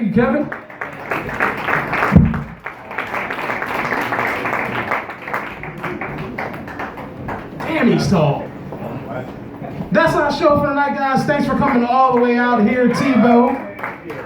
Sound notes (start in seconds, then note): 0.6 loud applause; 2.1 microphone bumped; 2.5 thunderous applause; 6.0 distant laughter; 6.6 medium applause